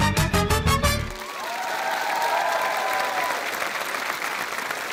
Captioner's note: applause